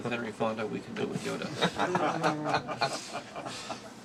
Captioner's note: laughing